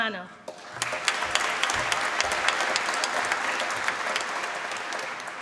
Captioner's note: applause